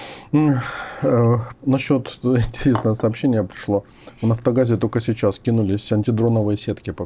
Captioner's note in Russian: вздыхает